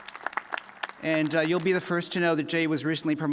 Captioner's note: applause